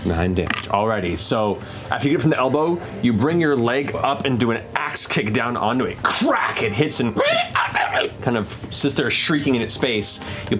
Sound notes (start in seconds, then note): 7.6 insect shrieks